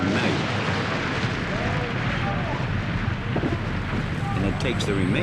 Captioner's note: engines ignite